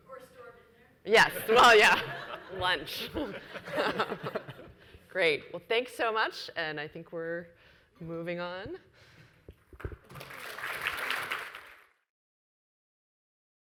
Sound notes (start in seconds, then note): 3.2 laughs; 9.8 audience applauds